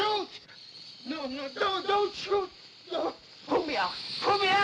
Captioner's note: cobra hissing; cobra hisses